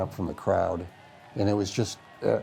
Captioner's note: crowd cheering